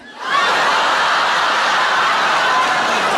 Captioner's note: laughing